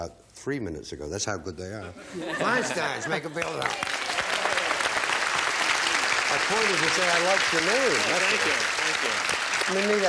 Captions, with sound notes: We actually did interview this family about 3 minutes ago. That's how good they are. Feinsteins, make them feel at home. (applause) My point is to say I liked your name. That's all.